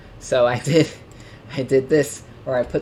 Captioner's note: laughs